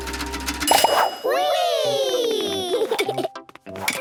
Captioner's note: pings